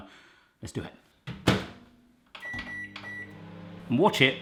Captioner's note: microwave beeping